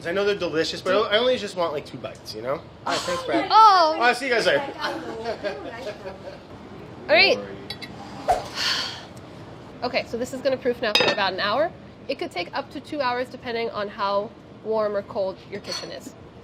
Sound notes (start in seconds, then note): 8.5 sighs